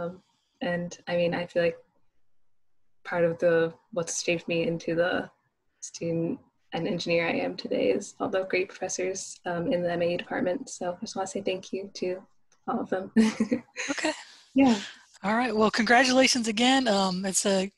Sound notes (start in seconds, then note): 13.6 laugh